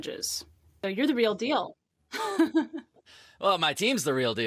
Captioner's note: laughs